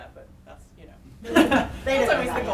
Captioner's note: laughing